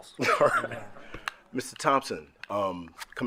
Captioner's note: group laughing